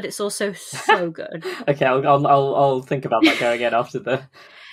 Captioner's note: laughs